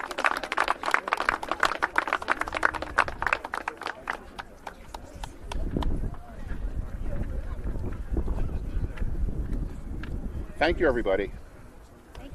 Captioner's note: applause